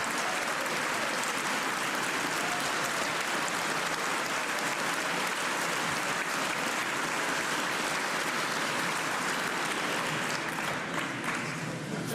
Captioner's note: cheers and applause